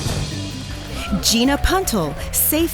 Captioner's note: drumroll; applause